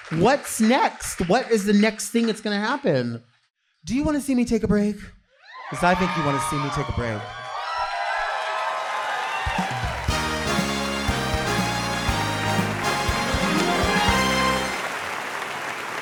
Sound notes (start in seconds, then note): 8.4 audience cheering and clapping; 9.6 upbeat music